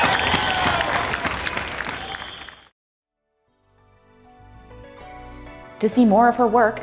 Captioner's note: applause